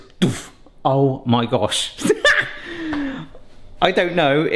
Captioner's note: cackles